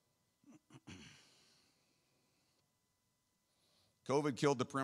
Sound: clears throat

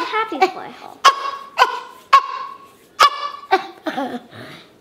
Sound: squeaking

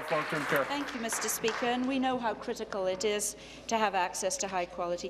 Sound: applause

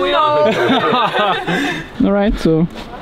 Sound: everyone laughing

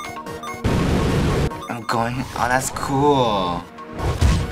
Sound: beam roaring

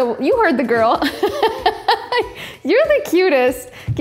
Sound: laughing loudly

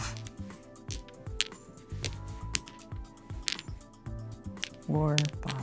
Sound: dominoes clattering

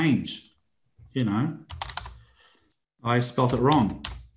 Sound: computer keyboard keys tapping

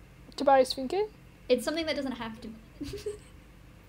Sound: confused giggle

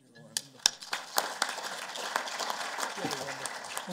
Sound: applause

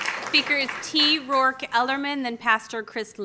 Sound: applause; applause

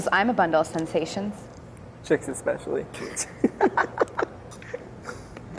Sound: laughter

